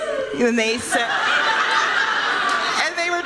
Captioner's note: laughter